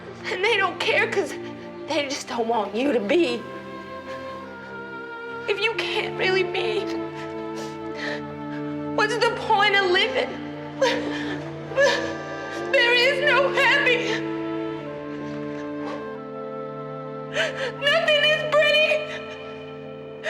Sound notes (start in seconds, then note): 11.7 sobs; 14.9 sobbing